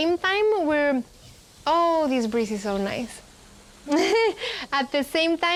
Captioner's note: laughs